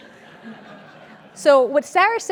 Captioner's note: laugh